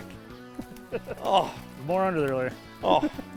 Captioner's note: laughs; laughter